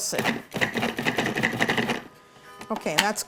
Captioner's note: blender pulsating